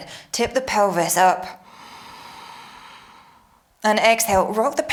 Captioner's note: inhales